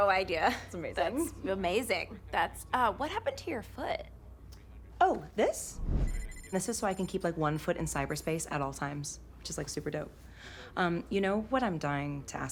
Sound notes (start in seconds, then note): 5.8 boot beeps